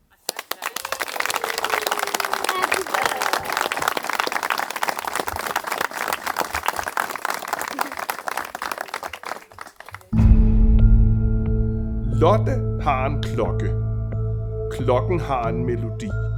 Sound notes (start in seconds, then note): 0.0 applauses